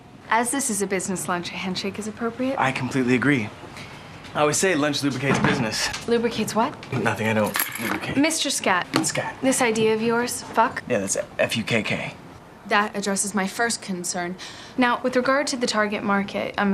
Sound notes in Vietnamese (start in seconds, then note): none